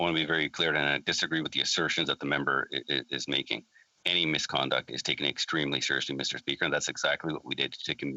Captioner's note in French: voix de l'interprète